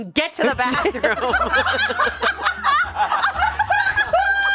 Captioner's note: everyone laughs